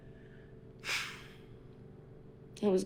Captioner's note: sigh